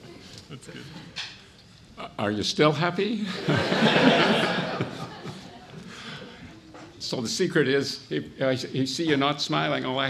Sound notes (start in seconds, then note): 3.3 audience laughs